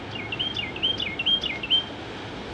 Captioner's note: birds singing